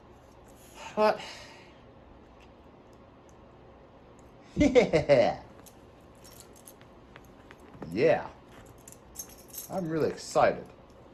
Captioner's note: Ella laughs